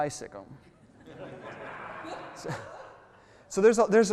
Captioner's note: crowd laughs